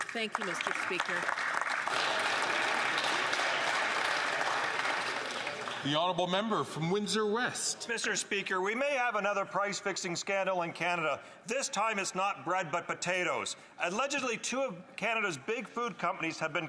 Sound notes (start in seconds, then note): 4.3 some Applause